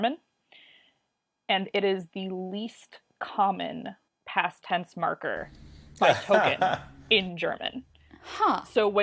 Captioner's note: laughs